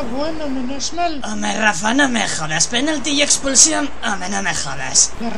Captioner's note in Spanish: Borracha y desvariando